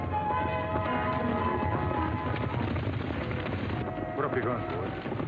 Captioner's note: dramatic music; horses galloping